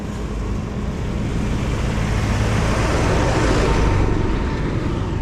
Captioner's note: tractor whooshes